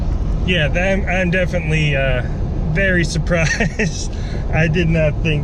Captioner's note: laughing